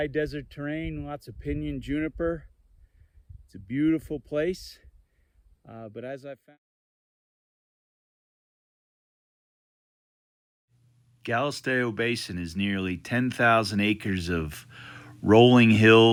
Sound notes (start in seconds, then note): 7.2 voice trails off